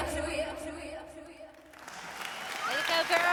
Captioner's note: applause